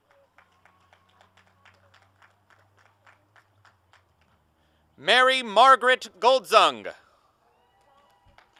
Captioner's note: applause and cheering; applause; applause